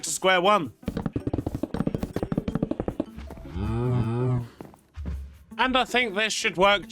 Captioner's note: games sounds